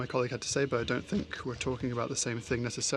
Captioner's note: speaking French